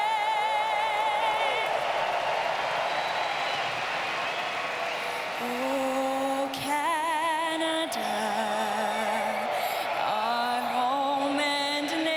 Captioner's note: cheering and Applause